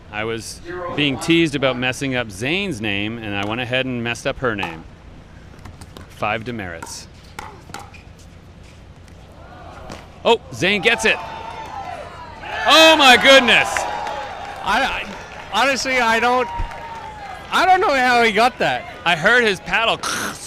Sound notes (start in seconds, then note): 9.5 crowd; 12.3 crowd cheers